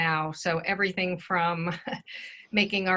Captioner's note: laughs